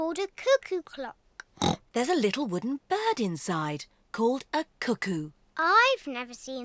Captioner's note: oinks